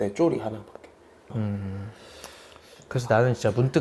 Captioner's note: silence sweeps through the studio